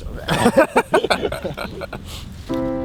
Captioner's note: both laugh